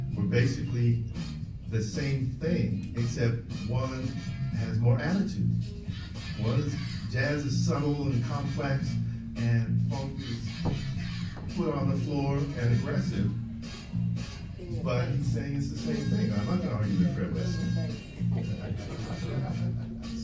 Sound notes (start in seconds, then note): 10.6 tapping foot; 18.5 laughs